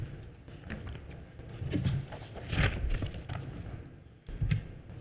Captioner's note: paper rustling